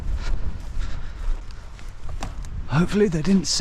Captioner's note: breathing heavily